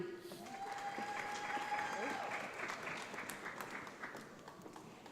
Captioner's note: audience applauds